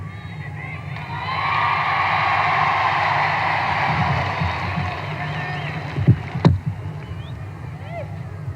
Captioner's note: crowd cheers